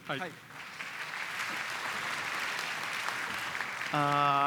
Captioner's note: applause